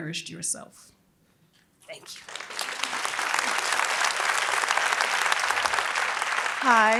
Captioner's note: applause